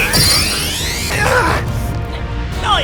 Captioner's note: grunt